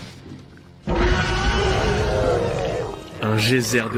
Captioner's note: monstrous noises